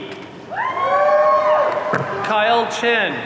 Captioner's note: audience cheering